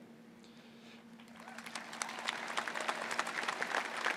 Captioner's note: applause